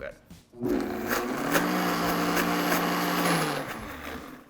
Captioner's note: light whirring